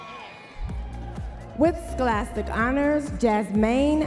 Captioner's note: audience members cheering